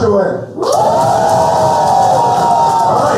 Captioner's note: cheers